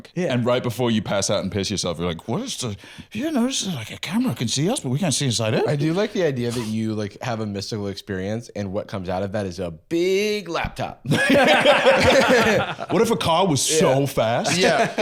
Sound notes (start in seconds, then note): 2.6 slurring; 11.1 all laughing